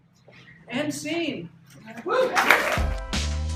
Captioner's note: cheering